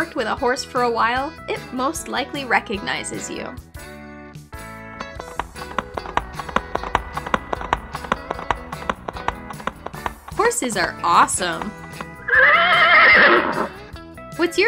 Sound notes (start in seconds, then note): 5.1 horse hooves clacking; 11.3 horse whinnying